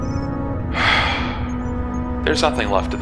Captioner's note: sighs